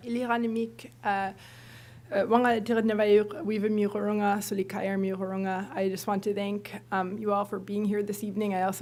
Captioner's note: non-english speech